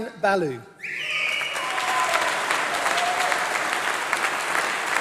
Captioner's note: applause